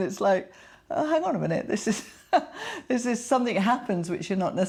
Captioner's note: chuckling